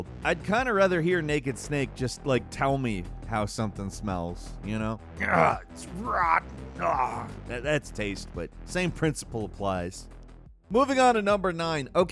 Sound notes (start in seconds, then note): 5.2 grunts